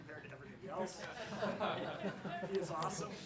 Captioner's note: laughs